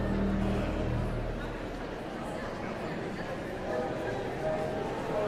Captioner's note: audience chattering continues